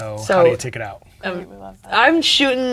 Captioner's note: speaking quietly